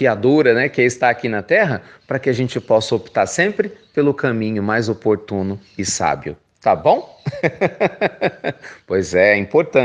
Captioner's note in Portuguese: risos